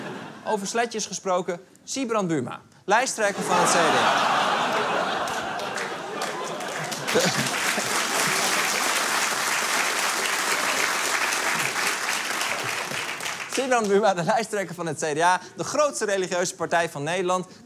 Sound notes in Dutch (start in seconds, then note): 3.3 Gelach; 7.1 Applaus